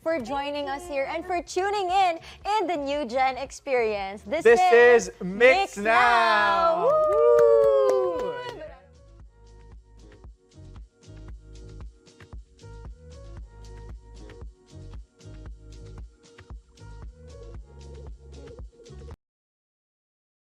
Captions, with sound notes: - for joining us here. - Thank you! And for tuning in to the New Gen experience. This is MYX Now! - Whoo! - [CLAPPING] [UPBEAT MUSIC PLAYING]